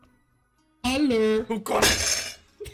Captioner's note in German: schreiend; klapperndes Geschirr